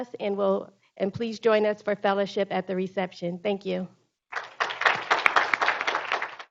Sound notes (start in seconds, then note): 4.3 group applauding